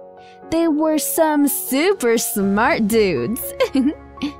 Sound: laughs

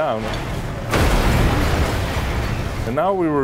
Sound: metal crashes

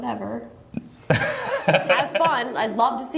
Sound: laughter

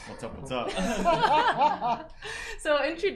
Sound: both laughing

